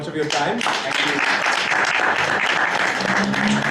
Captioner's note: applauding